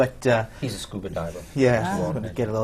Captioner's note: laughs